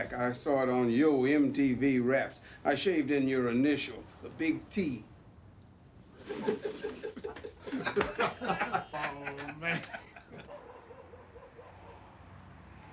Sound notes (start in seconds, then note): 6.2 laughter